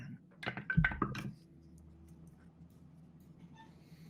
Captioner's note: dice rolls